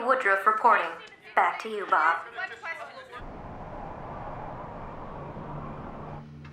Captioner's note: reporters clamoring